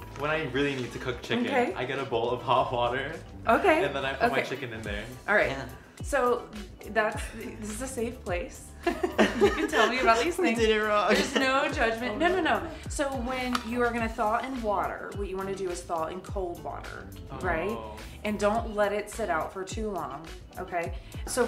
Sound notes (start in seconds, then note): 11.4 laughs